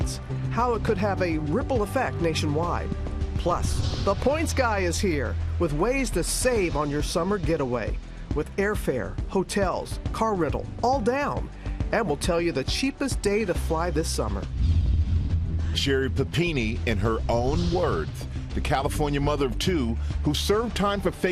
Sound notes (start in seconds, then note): none